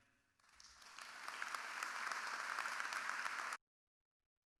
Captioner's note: audience clapping